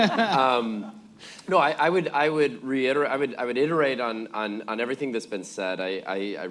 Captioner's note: laughter